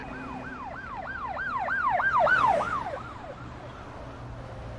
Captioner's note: police siren